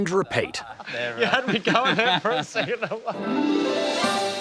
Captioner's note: laughs